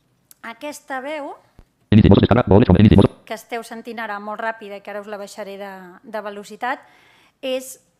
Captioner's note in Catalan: veu robòtica